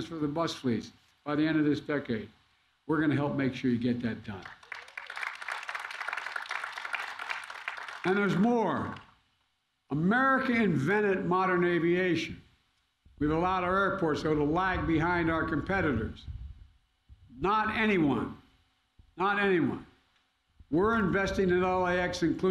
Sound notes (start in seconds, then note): 4.4 applause